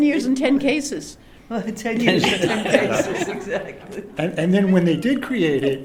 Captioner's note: laughter